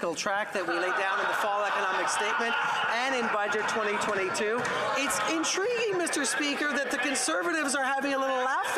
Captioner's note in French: voix de l'interprète